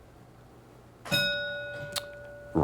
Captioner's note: bell ringing